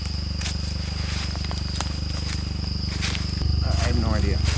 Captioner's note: footsteps rustling